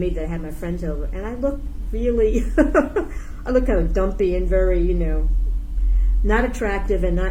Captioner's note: laughs